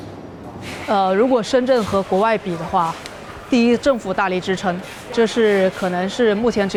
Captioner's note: speaker speaking in foreign language